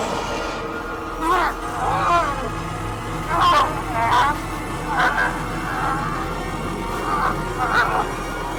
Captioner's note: Clyde attacking Young Wanderer, Young Wanderer screaming in pain